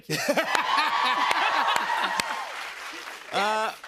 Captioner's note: laughs; cheers and applause